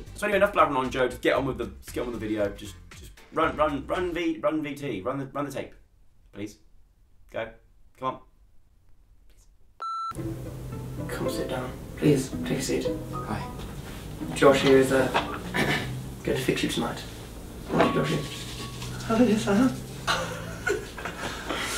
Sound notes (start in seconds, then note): 15.4 cough; 19.4 laughs; 20.0 laughing in background